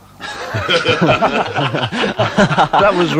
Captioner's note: laughter